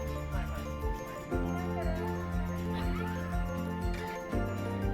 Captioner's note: laughs